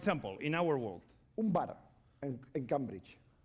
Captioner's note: speaking spanish